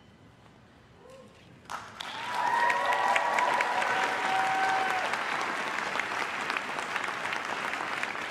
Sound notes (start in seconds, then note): 1.6 crowd claps and cheers